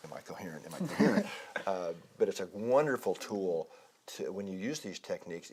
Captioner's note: laugh